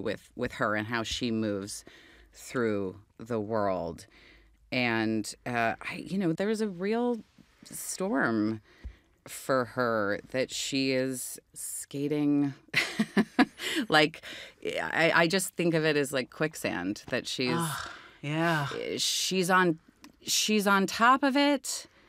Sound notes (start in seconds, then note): 12.5 chuckles